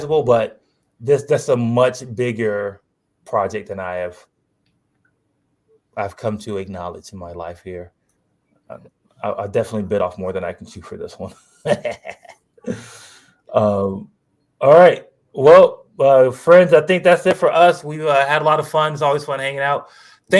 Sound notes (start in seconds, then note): 11.4 laughs